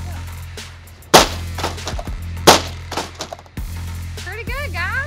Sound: vacuum thuds

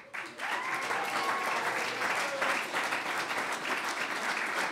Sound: clapping

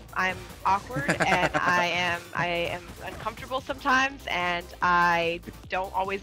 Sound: laugh

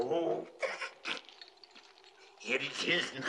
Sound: snickers

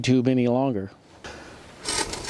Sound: sound scraping ground

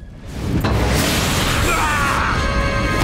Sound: groaning

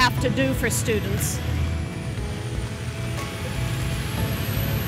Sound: engine hissing

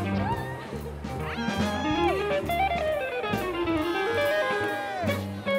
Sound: applause

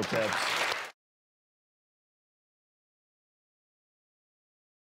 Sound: audience applauds

